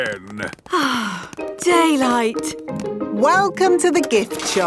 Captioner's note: sighs